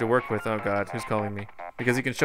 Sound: cartoony digital ringtone

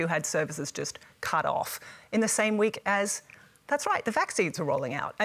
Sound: none

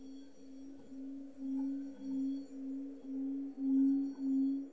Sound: chiming; low pitched whistling

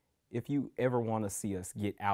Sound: none

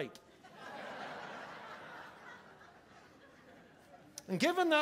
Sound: congregation laughing

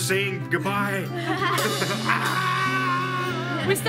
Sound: laughing

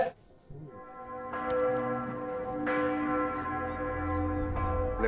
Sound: bell tolling

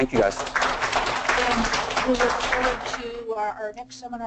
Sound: applauding

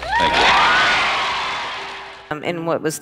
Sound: crowd cheers

